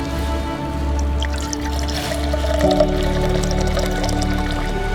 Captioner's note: water sound